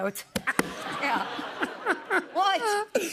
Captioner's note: laughter